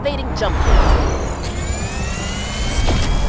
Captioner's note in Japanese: 起動音